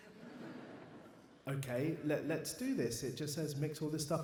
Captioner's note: audience laughs